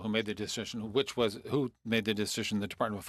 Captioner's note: speaking French